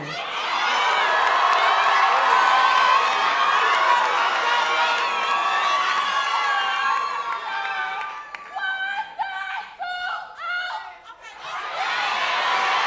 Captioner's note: cheering